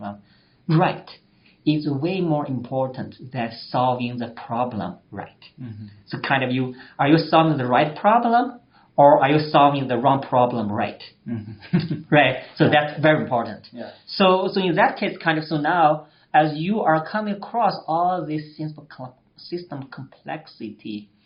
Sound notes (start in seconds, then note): 11.2 laughs